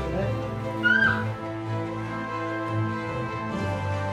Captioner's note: squealing